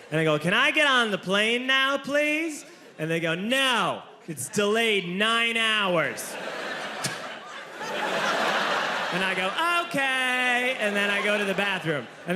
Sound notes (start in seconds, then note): 5.9 audience laughing